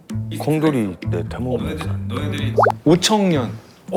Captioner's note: quietly